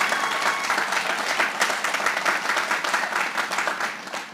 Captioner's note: applause